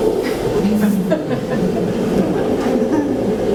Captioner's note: audience chuckles